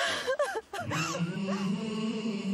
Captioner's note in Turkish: Ağlıyor